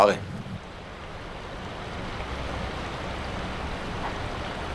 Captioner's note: water rushing